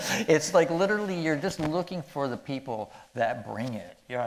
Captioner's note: none